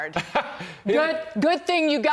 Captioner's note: laughter